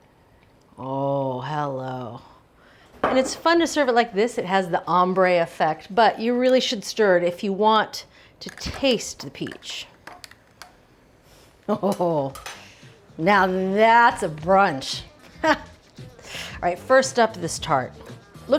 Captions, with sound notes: Oh, hello, and it's fun to serve it like this. It has the ombre effect, but you really should stir it if you want to taste the peach. Oh. Now, that's a brunch. (laughs) All right, first up, this tart.